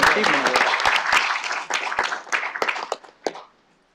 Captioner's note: applause